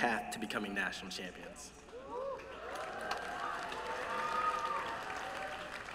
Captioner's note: applause